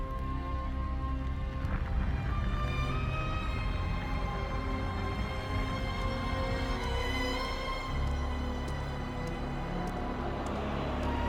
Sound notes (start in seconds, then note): 7.2 footsteps tapping